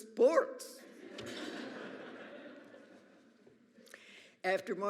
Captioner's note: audience laughs